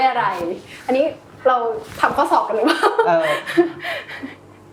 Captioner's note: laughs